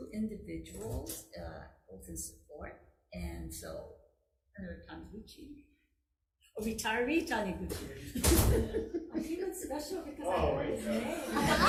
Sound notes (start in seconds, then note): 8.0 chuckling; 8.1 door slamming